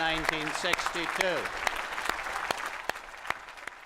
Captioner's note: applause